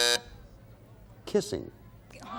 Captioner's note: buzzer sounding off